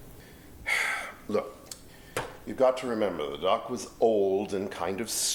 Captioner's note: sighs